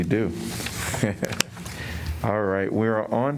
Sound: laughter

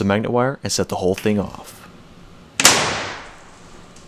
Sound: bang

